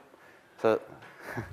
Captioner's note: chuckles